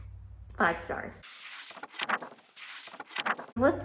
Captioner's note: pages turning